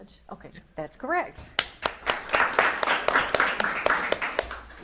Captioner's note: audience claps